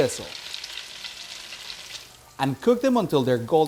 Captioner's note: sandwiches sizzling